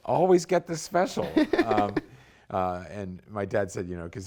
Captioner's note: laughter